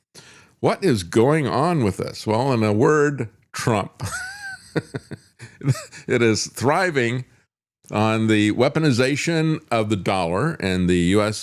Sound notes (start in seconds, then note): 4.0 laughs